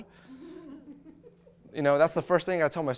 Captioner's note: audience laughter